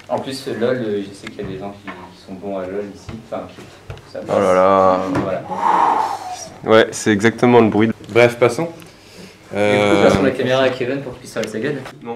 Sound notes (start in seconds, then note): 5.4 annoyed noises